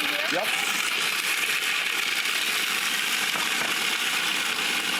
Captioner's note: blender grinding